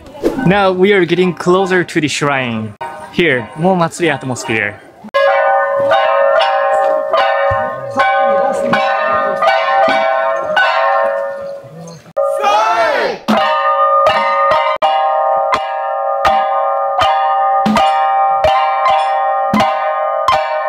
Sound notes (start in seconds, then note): 5.1 kane bells clang rhymically; 12.1 participants call out in unison; 13.2 kane bells clang rhymically